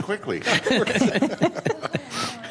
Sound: some Laughter

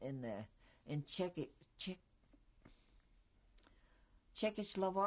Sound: pauses for 3 seconds

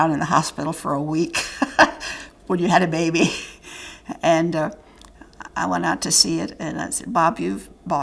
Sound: laughter

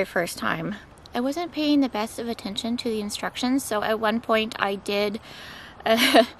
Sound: laughs

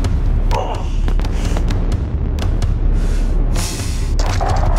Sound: Papi grunts

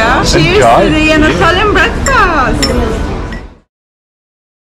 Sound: none

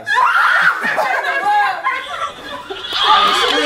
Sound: screaming; laughing

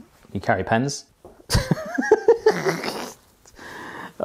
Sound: laughs

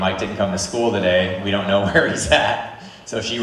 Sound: laughs

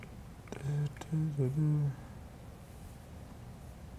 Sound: muttering tunes

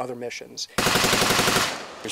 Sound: gunfire

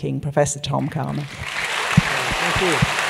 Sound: applause

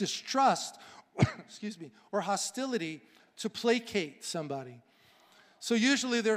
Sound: coughing

